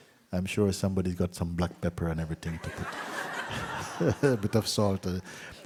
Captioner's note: laughter